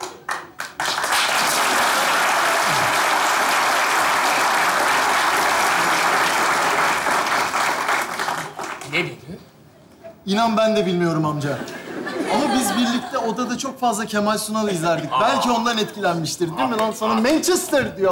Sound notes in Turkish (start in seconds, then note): 0.0 Alkış sesleri